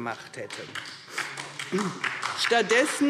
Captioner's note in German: Beifall DIE LINKE